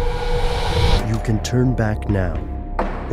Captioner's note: voiceover